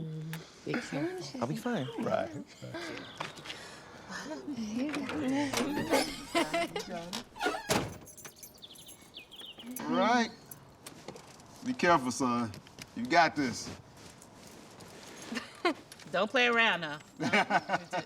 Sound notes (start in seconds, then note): 5.4 car door creaking; 5.4 laughs; 17.2 Tracy laughs; 17.2 Eric laughs